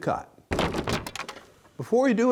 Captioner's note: wood clinks together